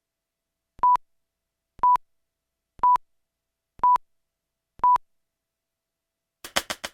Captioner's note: beeping